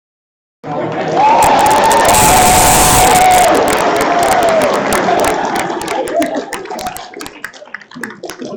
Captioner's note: applause